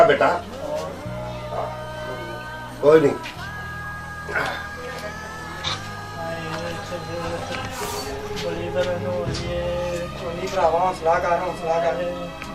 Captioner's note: groaning in pain